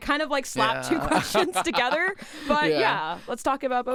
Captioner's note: both laughing